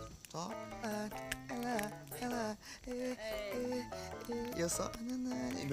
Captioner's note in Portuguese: cantarolando